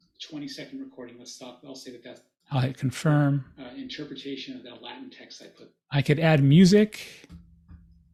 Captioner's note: recording playing